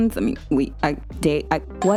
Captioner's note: stammering